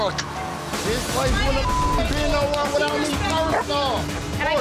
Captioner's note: beep